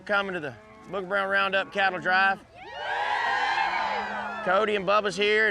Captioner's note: cheering